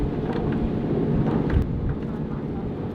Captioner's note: engine humming